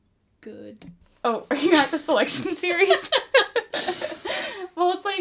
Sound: both laugh

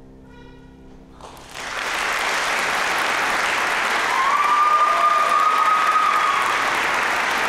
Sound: soft, mournful piano music; applause, cheering; applause

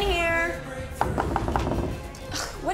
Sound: knocking on door

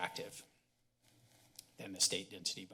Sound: pause

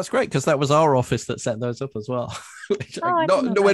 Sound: chuckles

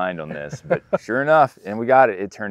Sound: laughs

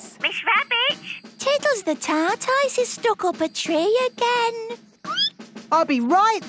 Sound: squeaking

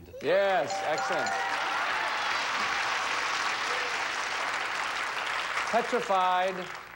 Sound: audience cheering

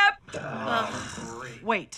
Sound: all groan

